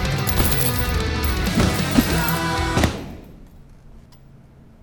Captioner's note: punching back thumping